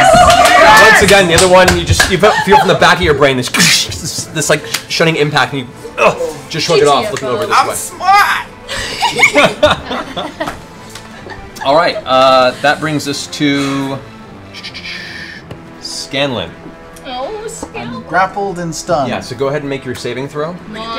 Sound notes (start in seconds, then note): 8.0 jeering; 8.7 laughter